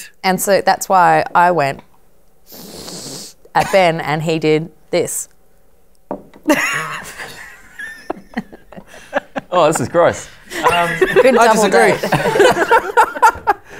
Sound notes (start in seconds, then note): 2.5 sniffs; 6.4 laughter; 10.6 laughter drowns out speech